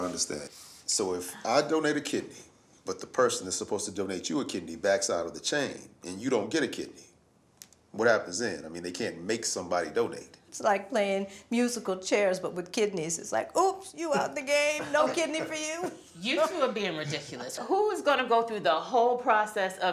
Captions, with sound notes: make sure I understand. So if I donate a kidney, but the person that's supposed to donate you a kidney backs out of the chain and you don't get a kidney, what happens then? I mean they can't make somebody donate. - It's like playing musical chairs but with kidneys. It's like oops, you out the game! No kidney for you. (laughs) - You two are being ridiculous. Who is gonna go through the whole process of evaluation